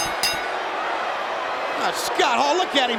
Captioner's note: crowd cheering; bell ringing